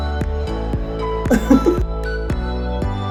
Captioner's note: dance music continues; laughs